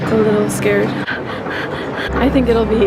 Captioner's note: heavy breathing